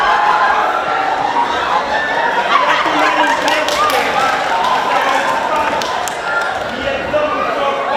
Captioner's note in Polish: Aplauz